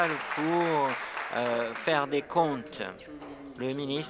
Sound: applause

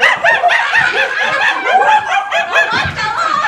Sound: monkey noises

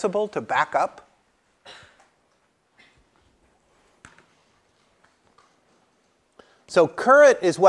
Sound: cough

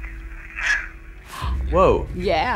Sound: gasps

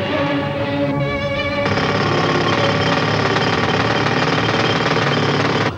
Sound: drilling

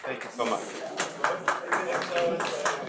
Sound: audience clapping

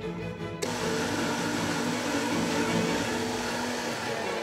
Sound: bright classical music; food processor whirring

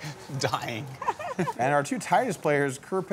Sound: chuckles; chuckling

